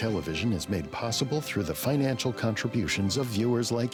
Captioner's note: voiceover